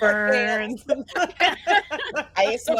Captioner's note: group laughs